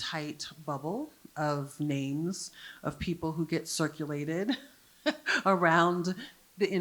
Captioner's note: chuckles